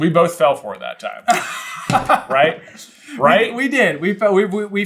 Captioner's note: laughs